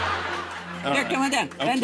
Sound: laughter

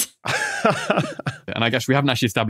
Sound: laughs

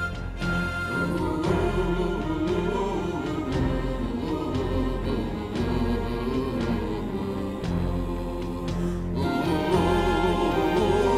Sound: hunters vocalizing

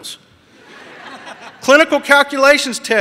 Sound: audience laughs

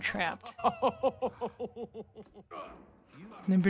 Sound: Megamind laughing villainously

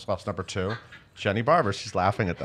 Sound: laughing

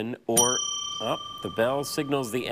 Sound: bell dings

